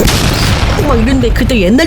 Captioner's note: boom